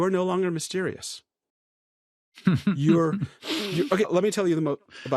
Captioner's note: laughs